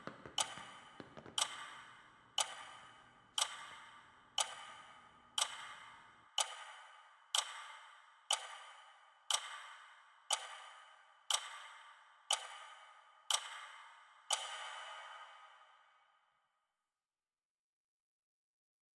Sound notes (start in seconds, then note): 3.8 ticking continues; 15.1 ticking ends